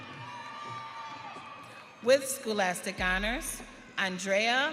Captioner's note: audience cheering